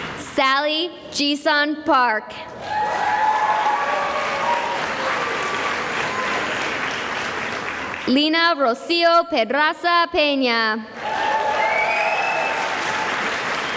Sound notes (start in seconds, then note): 2.5 cheering and applause; 10.9 cheering and applause